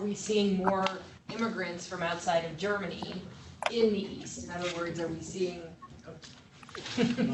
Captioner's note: laughter